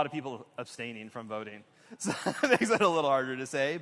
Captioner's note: laughter